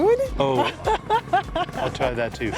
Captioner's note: laughs